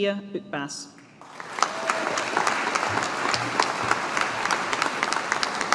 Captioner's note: audience applauding